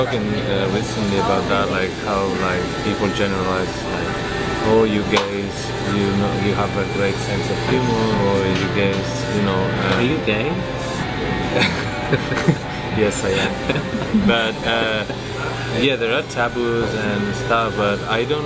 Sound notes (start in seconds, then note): 13.9 laughs